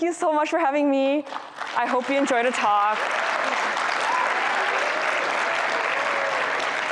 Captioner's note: audience clapping